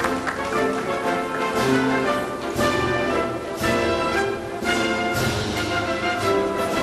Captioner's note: applause